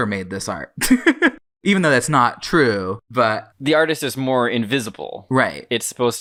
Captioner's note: laughs